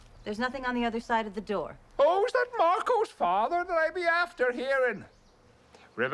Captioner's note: Irish accent